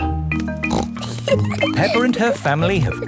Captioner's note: snorts and giggles